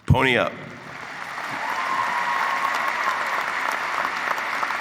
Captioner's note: clapping and cheering